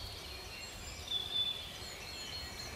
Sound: birds chirping

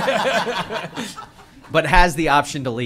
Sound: laughter

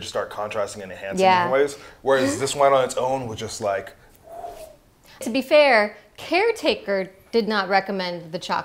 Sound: wind sound

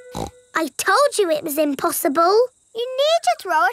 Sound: snorts

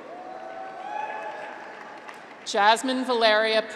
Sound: graduates cheer

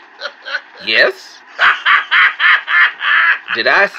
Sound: laughs

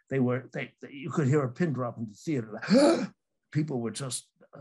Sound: gasps

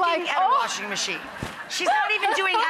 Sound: crowd laughing

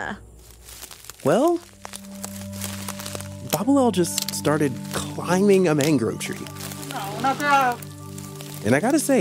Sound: crunch! Snap!

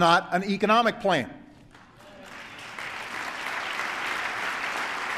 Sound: applause

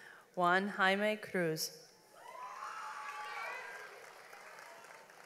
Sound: audience applauds

